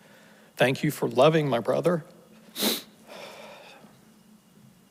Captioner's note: sniffles